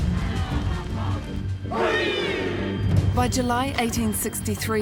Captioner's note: shouting in te reo Māori